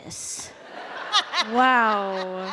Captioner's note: laughter